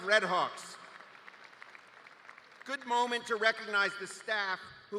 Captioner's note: cheers